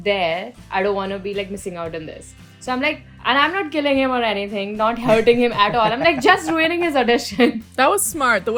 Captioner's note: laughter